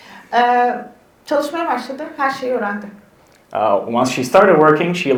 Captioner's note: speaks in Turkish